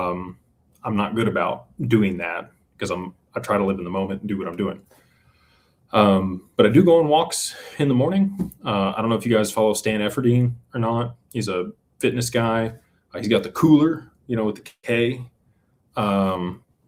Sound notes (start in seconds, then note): none